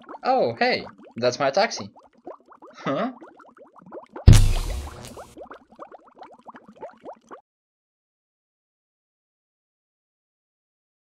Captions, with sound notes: Oh, hey - that's my taxi? Eh? *Electricity* *Boom*